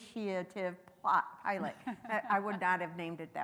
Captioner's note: laughing